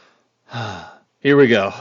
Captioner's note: sigh